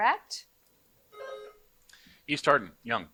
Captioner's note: buzzer buzzing